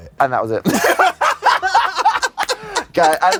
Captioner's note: both belly laughing